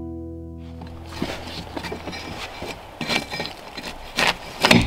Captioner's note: tool scraping